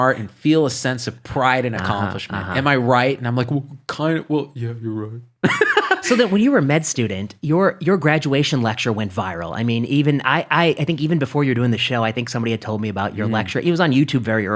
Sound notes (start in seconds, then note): 5.5 laughing